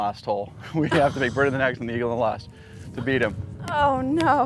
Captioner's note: laughs